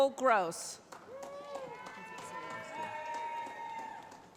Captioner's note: cheering